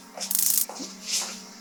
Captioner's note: taser Sound; unsettling Music